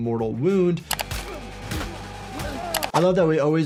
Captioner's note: gun fires